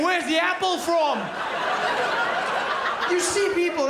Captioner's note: crowd laughs